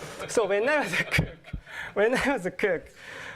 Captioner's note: laughter